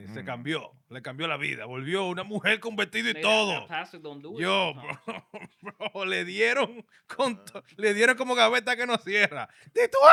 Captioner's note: speaking In Spanish